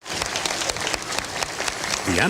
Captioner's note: applause